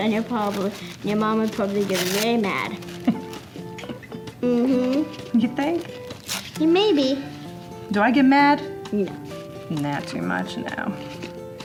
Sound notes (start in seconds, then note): 3.0 laughs